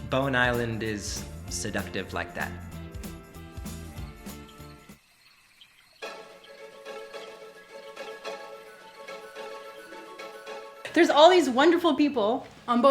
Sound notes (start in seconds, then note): 3.6 insects chirping; 6.0 pleasant music